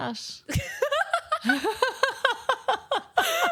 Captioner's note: laughter